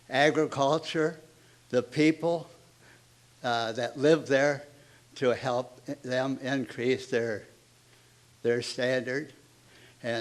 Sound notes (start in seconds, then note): none